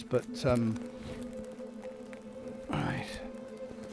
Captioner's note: plastic crackling